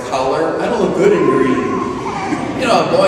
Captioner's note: mocking